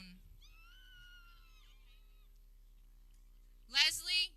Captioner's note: people cheering